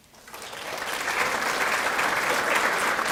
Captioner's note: clapping